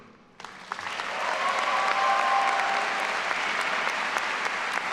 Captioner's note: all applauding and cheering